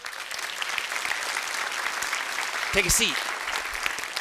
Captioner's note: students clapping